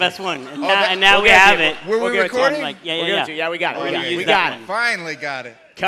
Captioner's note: applause